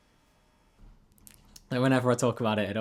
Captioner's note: ticks